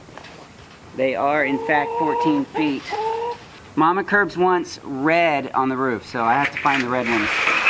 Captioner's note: sound of metal sliding